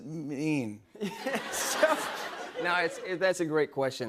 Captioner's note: laughter